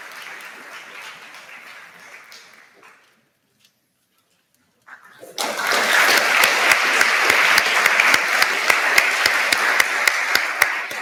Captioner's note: applause